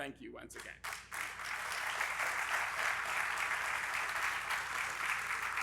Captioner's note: audience applauding